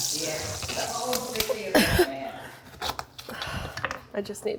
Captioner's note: grunting